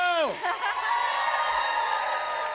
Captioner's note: cheers and applause; laughs